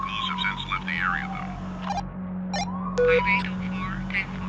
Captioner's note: walkie talkie beep